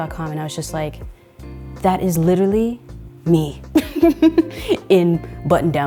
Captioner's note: laughing